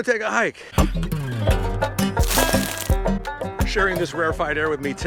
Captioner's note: upbeat music featuring banjo; foot crunches gravel